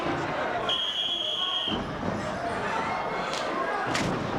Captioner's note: whistling